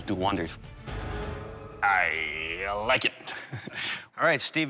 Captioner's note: soft laugh